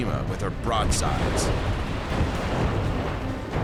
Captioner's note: explosions